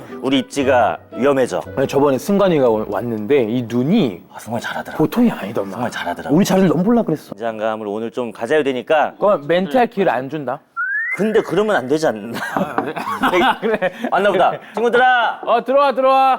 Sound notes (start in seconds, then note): 12.6 knock at the door